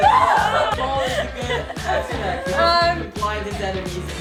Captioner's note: crowd clapping; cheering; laughs